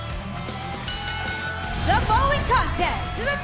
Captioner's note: bell ringing